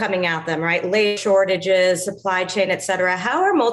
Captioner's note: audio distortion